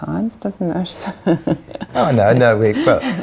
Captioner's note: laughing